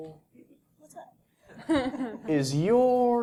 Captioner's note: laugh